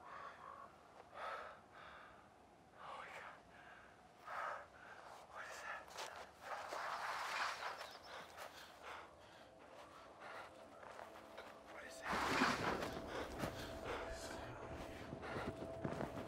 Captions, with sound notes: oh my God, what did I? (person whispering)